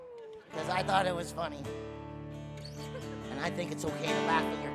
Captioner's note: audience laughing